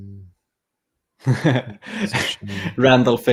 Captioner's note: chuckling